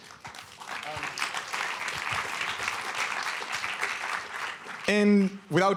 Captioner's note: applause